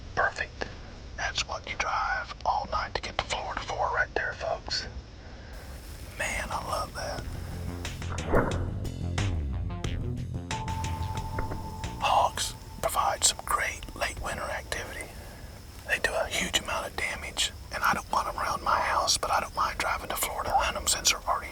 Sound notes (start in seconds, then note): 11.4 whispering